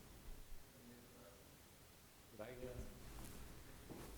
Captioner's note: background voices